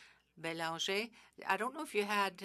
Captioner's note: speaking French